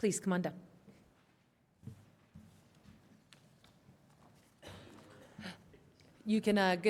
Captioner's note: quiet room